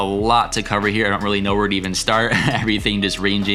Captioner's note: chuckles